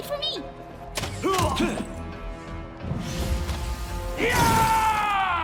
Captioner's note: dramatic music; people grunting